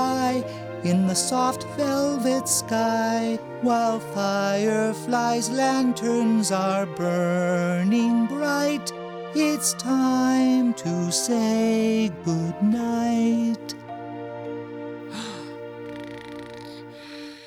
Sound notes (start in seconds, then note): 15.1 soft gasp; 15.2 snoring